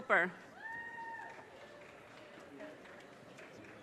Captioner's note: audience cheers and applause